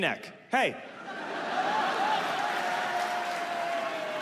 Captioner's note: audience laughs; audience applauds